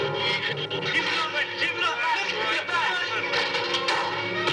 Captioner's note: men yelling